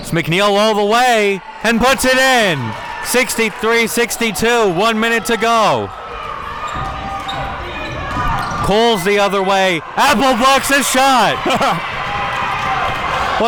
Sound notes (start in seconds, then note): 0.6 audience cheering; 11.3 audience cheering; 11.4 laughs